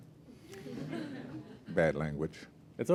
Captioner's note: laughter